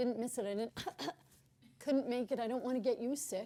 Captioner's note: cough